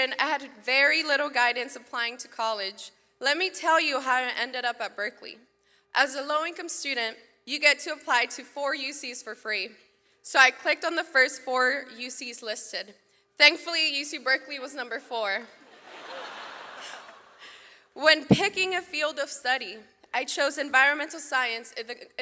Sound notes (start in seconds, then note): 15.7 audience laughs